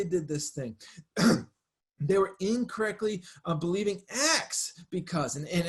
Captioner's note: clears throat